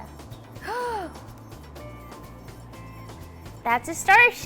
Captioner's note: gasping